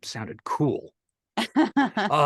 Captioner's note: laugh